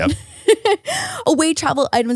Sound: laughs

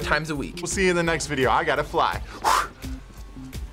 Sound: blows

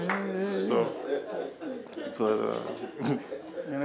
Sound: laughing

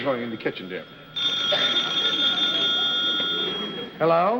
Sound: ring

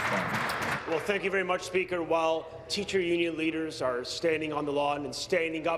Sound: applause

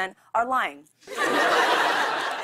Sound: laughter

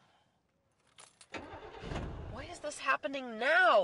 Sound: engine cranks

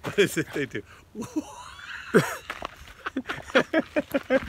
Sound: laughs

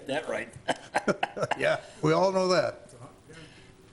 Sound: laughing

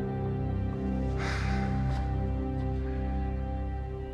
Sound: sighs

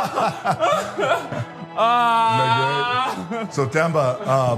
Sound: laugh

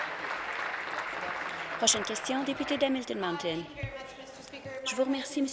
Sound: applause

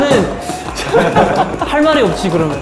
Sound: laughing

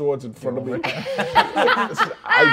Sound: players laughing

